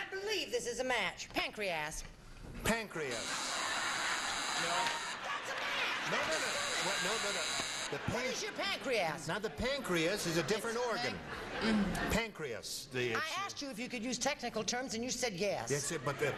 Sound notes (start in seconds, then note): 3.1 laughing; 5.8 buzzing, laughing